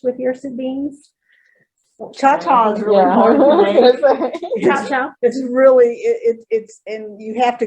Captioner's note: laughter, agreement